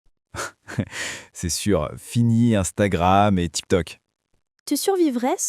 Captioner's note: laughs